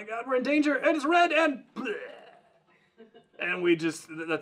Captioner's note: mimics death noise